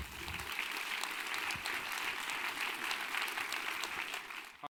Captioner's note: crowd applauding